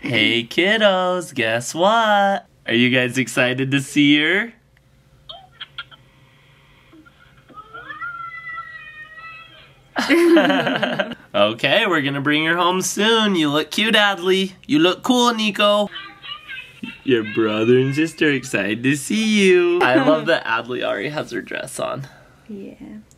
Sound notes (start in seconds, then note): 7.7 children Yelling; 10.0 laughter